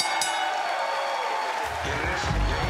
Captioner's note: bell; cheers & applause